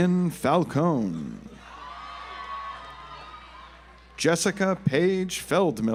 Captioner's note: audience applauds